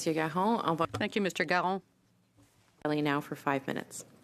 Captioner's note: speaking French